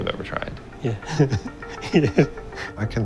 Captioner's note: chuckles